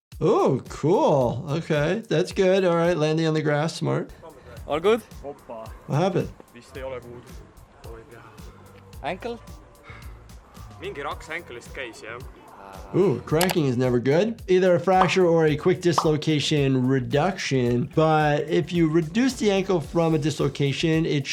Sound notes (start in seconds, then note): 10.6 speaking foreign language